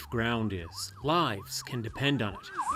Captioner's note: siren